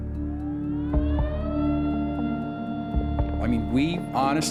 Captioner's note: siren blaring